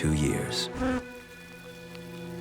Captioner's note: fly buzzes